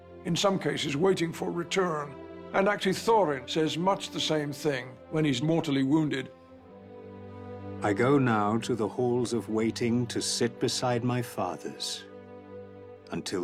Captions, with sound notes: In some cases, waiting for a return. And actually Thorin says much the same thing... ...when he's mortally wounded. [NARRATOR READING ON-SCREEN TEXT]